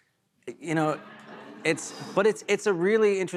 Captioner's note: audience "Oohs"